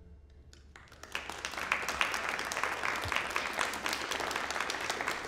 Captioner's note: applause